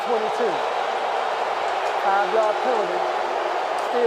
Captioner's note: booing